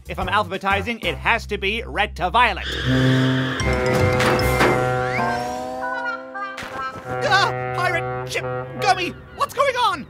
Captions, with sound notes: If I’m alphabetizing it has to be red to violet. *HONK* Gah! Pirate ship… Gummy, what’s going on?